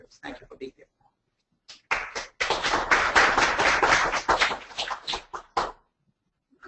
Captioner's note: audience applauds